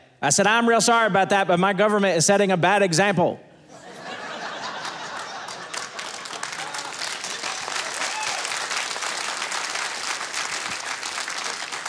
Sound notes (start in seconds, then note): 3.7 audience laughing; 6.1 audience applauding